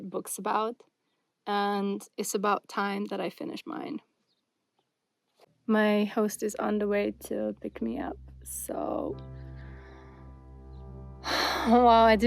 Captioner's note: sighs and gasps